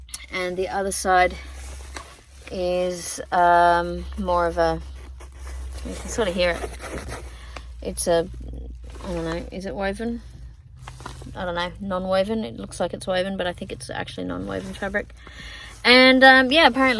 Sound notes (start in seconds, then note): 6.5 fingernails scratch against fabric